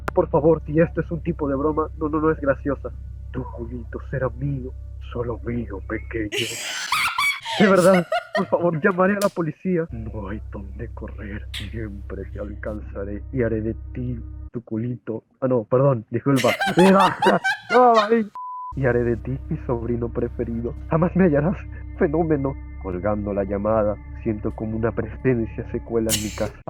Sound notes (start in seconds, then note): 16.3 laugh